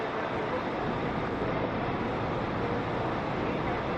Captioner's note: ambient sound, bus in terminal